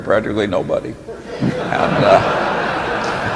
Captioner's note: laughter